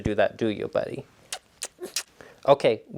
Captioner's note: smooches loudly